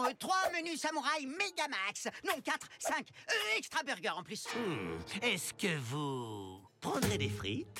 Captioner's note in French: none